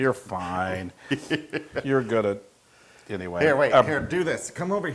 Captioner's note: laugh